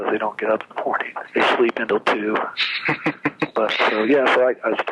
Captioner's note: laughs